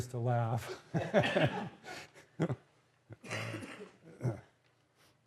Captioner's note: laughter